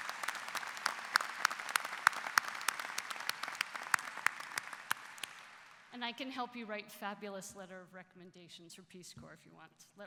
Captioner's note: applause